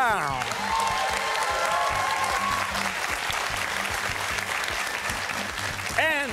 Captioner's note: cheers and applause